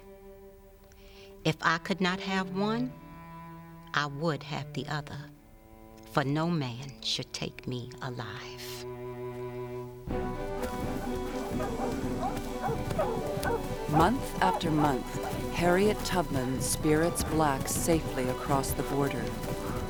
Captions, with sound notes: IF I COULD NOT HAVE ONE, I WOULD HAVE THE OTHER, FOR NO MAN SHOULD TAKE ME ALIVE. [DOGS BARKING] MONTH AFTER MONTH, HARRIET TUBMAN SPIRITS BLACKS SAFELY ACROSS THE BORDER.